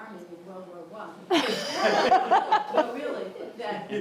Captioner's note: laughing